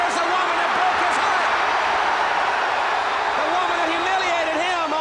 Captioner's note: audience cheers